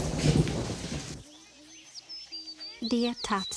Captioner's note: rain pouring; thunder rumbling; birds chirping